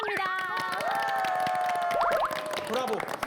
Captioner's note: A round of applause